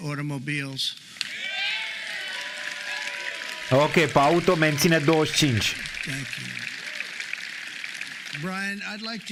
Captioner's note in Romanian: Aplauze